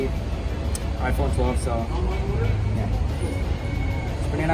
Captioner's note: conversing quietly